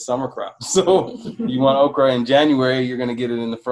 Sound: laughs

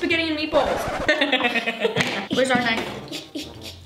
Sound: laughs

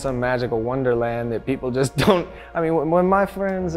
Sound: chuckles

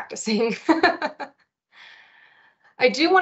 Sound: laughs

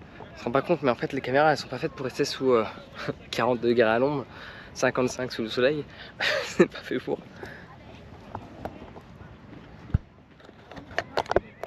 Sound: speaking in foreign language; footsteps; speaking in foreign language

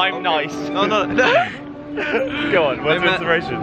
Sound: laughs

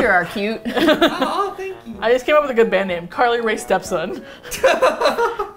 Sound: all laugh; laughs

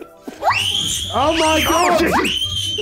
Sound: kids scream

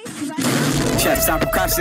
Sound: door gets kicked down

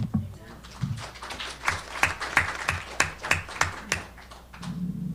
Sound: audience clapping

